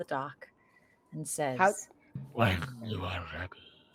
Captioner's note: heavy voice